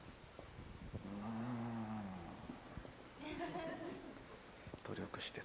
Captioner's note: Kore-eda sighs; light audience laughter